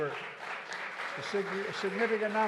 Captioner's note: applause